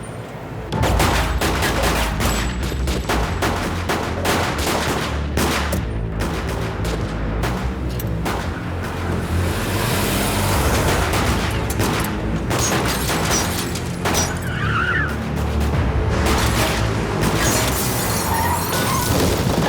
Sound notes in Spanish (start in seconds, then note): 0.7 Disparos; 13.0 Chirrido de llantas; 13.0 Disparos